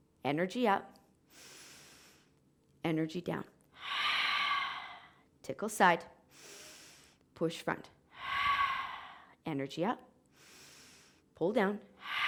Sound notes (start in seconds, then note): 1.0 inhaling; 3.8 exhaling; 8.2 exhaling; 8.2 inhaling; 11.4 exhaling